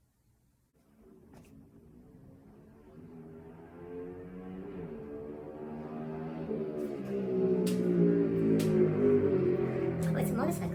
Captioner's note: a motorcycle sound from the street